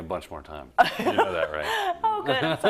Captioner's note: laugh